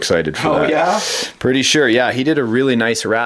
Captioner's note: voiceover